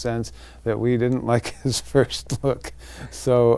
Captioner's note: laughing